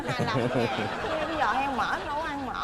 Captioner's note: laughing